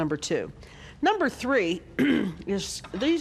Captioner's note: clearing throat